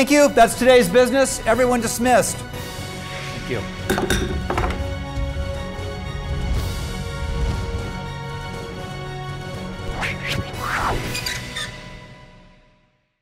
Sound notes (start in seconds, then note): 3.9 gavel banging; 4.7 dramatic music